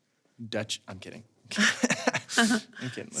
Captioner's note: laughs